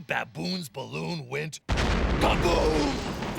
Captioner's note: explosion